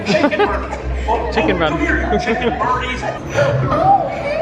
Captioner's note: laughing